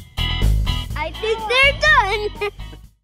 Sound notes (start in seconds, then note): 1.9 laughs